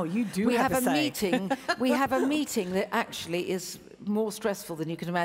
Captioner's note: laughs